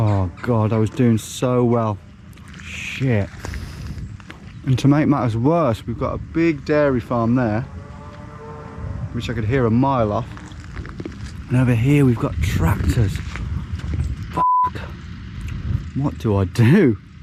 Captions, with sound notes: Oh God. I was doing so well. Shit. And to make matters worse, we've got a big dairy farm there, (cows muttering) which I could hear a mile off. And over here we've got tractors. (beep), what do I do?